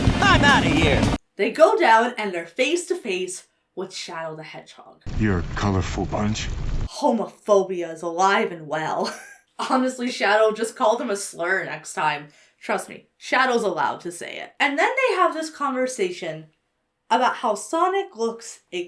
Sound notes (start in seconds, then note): 9.0 chuckles